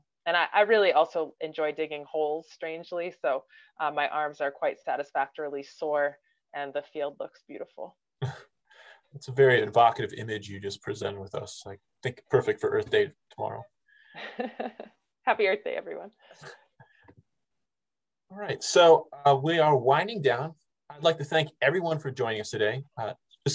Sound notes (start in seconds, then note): 14.2 laughs